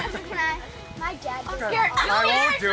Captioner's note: group laughing